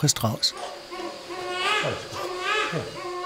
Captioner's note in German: Weinen